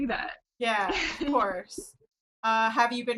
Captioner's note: laughs